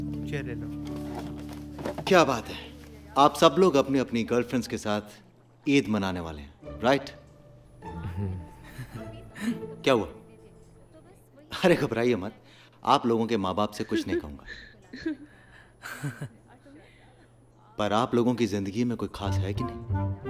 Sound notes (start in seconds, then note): 7.9 All chuckling